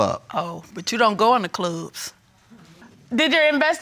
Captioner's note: sarcastically